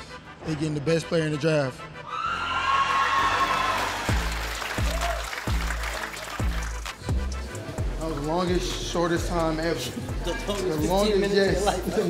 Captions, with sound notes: - They getting the best player in the draft. (audience cheering) (upbeat music) That was the longest, shortest time ever. - The longest 15 minutes of your life.